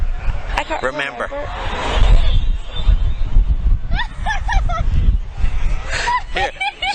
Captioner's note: laughter